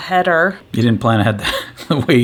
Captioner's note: laughs